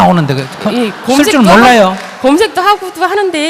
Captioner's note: audience Laughter